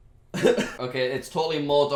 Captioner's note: laughs